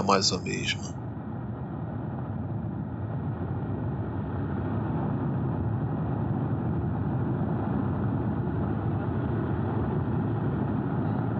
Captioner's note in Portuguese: barulho de helicóptero, som suavizado, até o final do vídeo